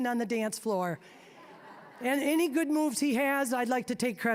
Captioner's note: audience laughing